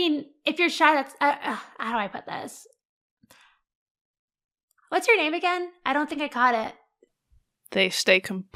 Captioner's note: small sigh